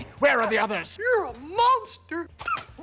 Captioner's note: squeaky voice